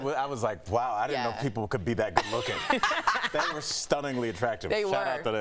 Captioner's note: laughter